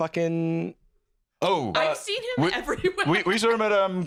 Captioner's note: laughing